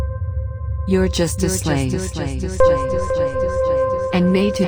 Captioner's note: voice echoing